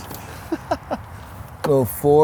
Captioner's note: laughs